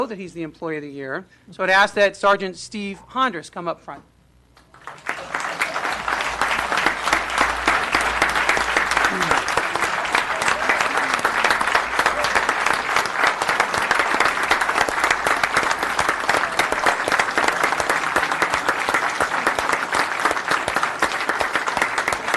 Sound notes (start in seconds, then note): 3.3 applause